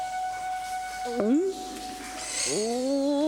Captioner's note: gulps